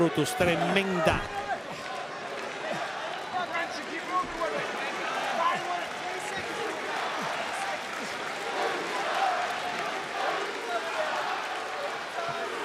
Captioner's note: applause